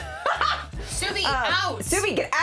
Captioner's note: laughing